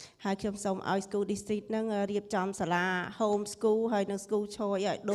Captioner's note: speaking foreign language